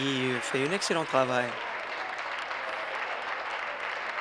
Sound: applause

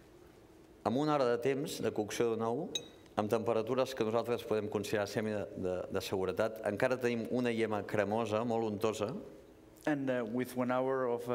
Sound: speaking catalan

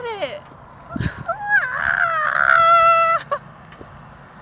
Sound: scream-cackles

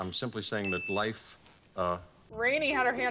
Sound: ding

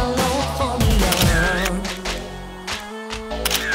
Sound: camera clicking

